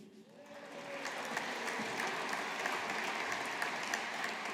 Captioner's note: audience applauding